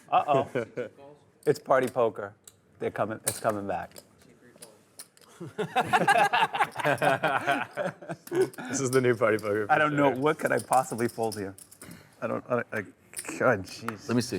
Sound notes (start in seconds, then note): 5.4 players laughing; 8.8 voiceover